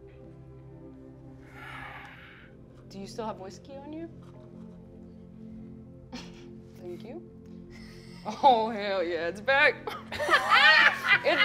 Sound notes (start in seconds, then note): 1.5 sighing; 10.0 all laughing